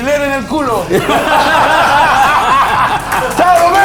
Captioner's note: laughs